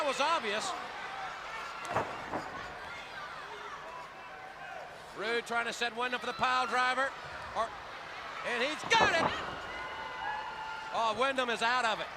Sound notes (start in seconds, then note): 2.0 crowd chatter